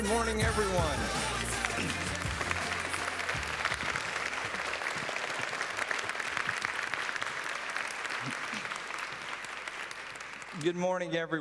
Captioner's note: applause